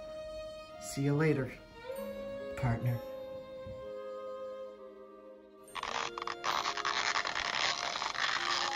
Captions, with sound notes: See you later partner (Stretching and Crunching noises)